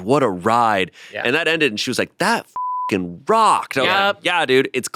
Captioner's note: beep